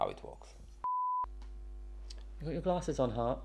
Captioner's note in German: Piepton